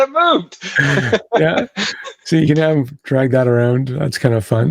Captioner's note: laughs